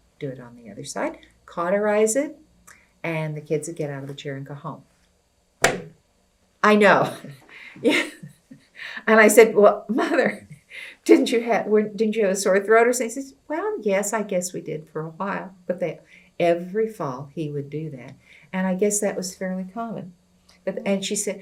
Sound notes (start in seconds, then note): 7.0 laughs